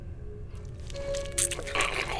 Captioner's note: squelching